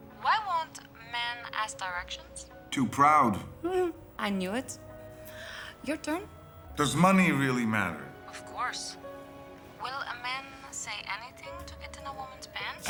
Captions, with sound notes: Why won't men ask directions? Too proud. [laughs] I knew it. Your turn. Does money really matter? Of course. Will a man say anything to get in a woman's pants?